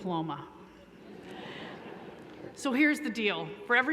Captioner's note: laughter